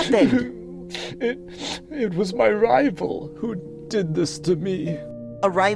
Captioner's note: sniffs